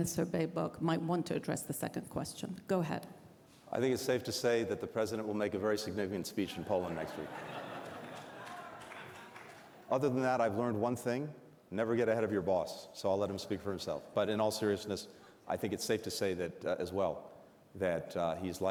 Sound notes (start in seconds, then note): 6.5 laughter